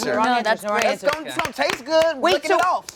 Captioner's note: clapping